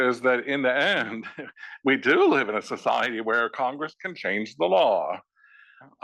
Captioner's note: laugh